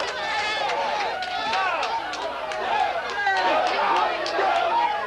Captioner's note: clamoring